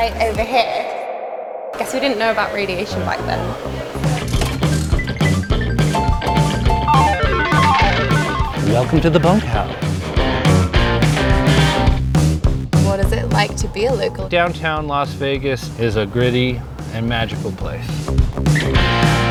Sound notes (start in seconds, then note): 4.4 slot machine whirring; 10.3 rockabilly music